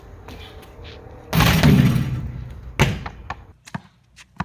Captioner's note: ball bouncing